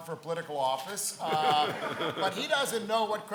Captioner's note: laughs